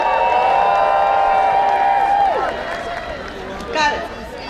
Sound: applause

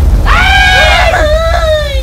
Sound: scream

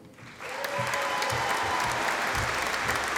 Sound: audience applauding

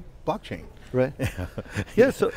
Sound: laughing

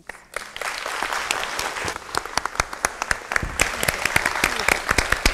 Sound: audience applauding

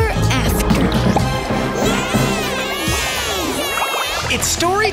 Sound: cheering

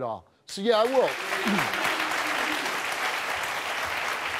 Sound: audience applauds

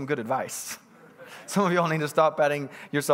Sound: congregants bustling

